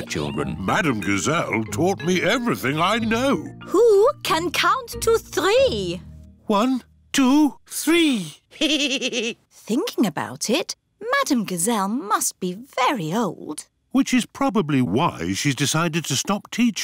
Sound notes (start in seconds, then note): 8.5 giggles